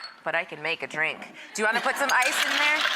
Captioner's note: audience laughs